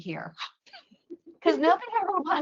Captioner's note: laughter